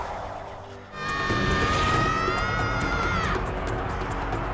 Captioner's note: screaming